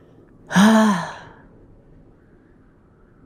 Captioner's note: sigh